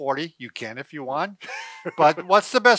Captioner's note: laughs